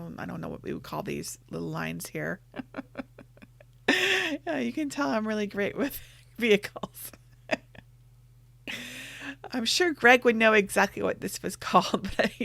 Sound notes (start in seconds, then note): 2.6 laughs; 7.4 laughs